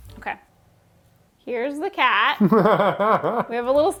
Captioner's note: laughing